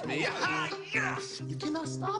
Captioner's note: excited yelling